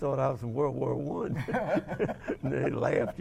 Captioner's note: both laugh